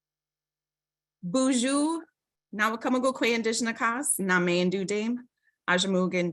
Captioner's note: speaking in foreign language